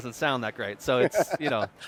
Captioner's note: laughing